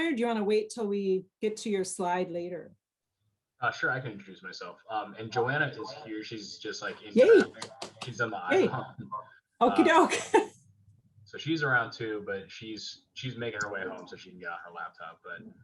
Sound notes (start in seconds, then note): 8.5 laughs